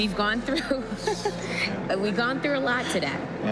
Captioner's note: chuckles